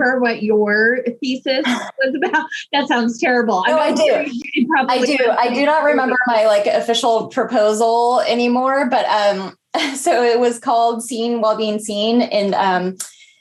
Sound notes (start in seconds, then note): 1.7 scoffs